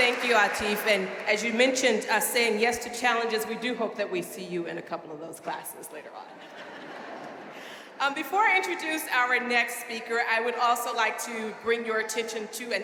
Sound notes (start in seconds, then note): 6.4 audience laughing